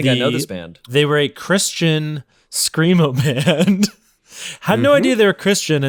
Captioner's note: giggles